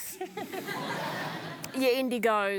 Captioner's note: laughter